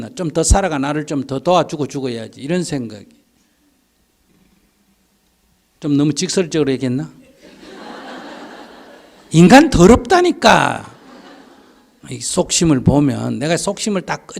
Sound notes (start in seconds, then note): 7.3 audience Laughter